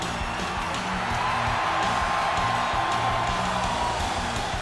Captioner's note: audience cheers